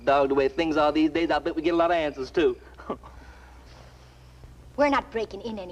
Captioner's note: laughs